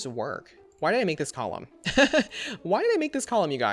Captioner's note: laughs